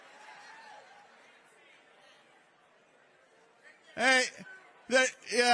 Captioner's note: crowd chanting